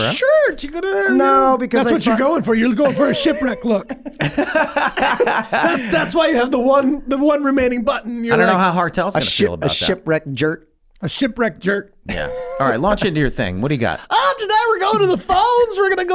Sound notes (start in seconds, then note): 4.1 Rob and Glenn laughing